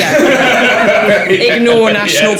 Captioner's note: laughing